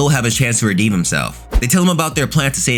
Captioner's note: air whooshing